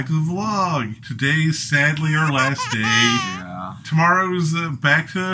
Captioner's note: baby crying